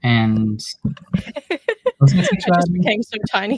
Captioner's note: laughs